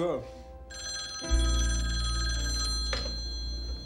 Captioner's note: phone ringing